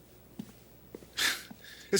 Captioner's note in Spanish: Dave suspira